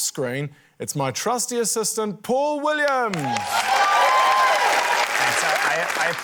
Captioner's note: cheering, applause